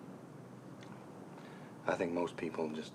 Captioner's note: none